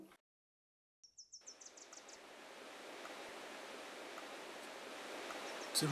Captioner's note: forest din